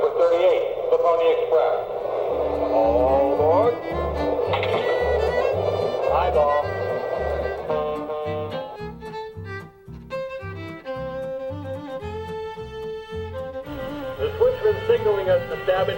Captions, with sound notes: Train number 38 -- The Pony Express. - [Voiceover] All aboard. (train horn)